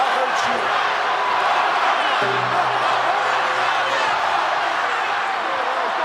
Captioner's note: crowd chants "One more time"